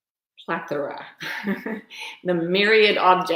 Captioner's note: laughs